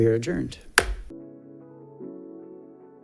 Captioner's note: gavel clacking; smooth upbeat music